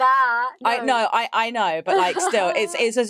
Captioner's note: laughs